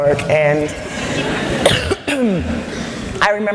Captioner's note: laughter